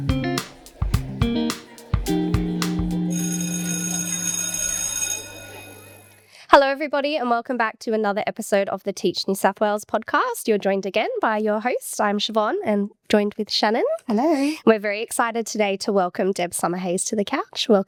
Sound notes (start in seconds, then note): 3.0 school bell ringing